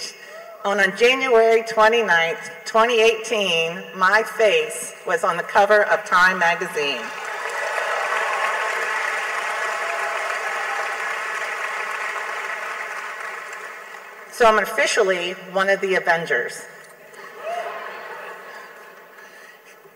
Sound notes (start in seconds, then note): 7.2 clapping; 17.1 laughing